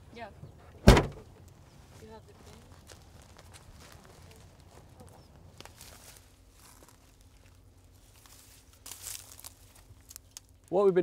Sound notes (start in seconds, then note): 0.8 trunk slams; 4.1 grass crunches; 8.3 grass crunches